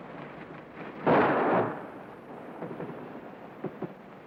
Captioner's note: gun firing